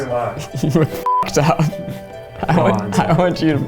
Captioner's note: beep